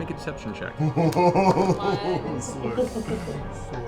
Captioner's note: laughing